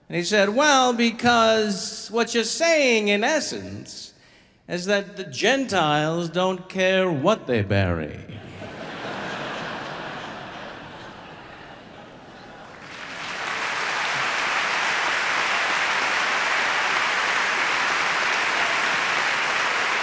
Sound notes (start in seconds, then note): 8.5 audience laughing; 11.7 audience applauding